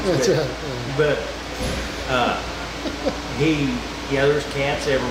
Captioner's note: laughing